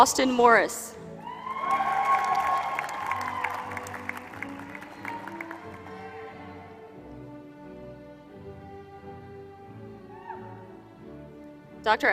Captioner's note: applause